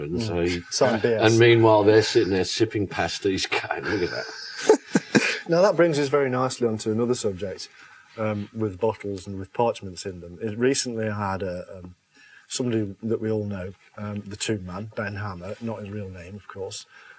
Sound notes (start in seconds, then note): 3.6 laughs